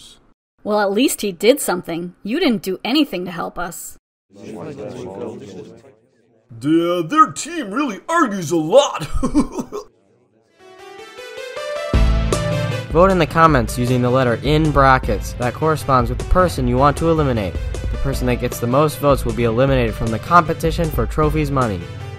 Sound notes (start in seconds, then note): 5.7 distant Yelling; 10.8 outro music plays